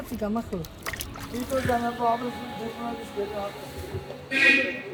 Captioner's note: indistinct chatter